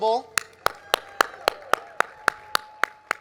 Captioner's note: clapping